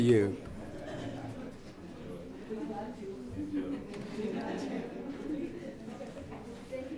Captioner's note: audience laughs